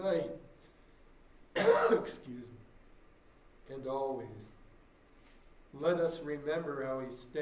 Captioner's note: coughs